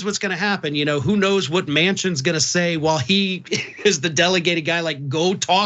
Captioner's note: laugh